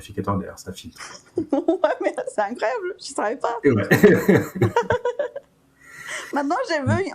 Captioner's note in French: rires